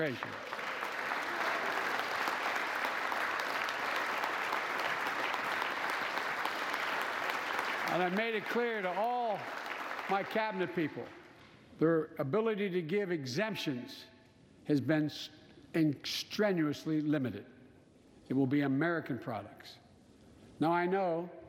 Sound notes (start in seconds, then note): 5.2 applause